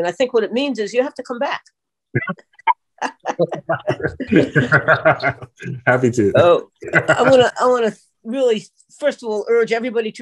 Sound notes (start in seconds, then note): 3.0 laughter